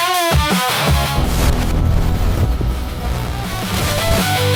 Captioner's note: ominous ripping, static and heartbeat interrupt the music